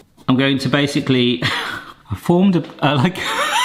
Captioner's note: chuckles; laughs